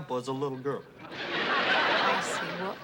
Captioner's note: laughter